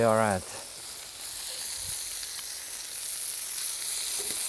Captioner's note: pan sizzling